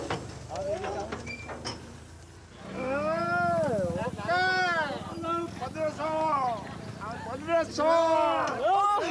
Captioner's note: non-english speech